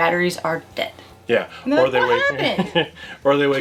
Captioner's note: laughs